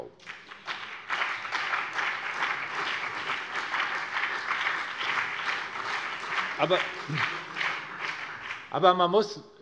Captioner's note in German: Beifall BÜNDNIS 90/DIE GRÜNEN und vereinzelt CDU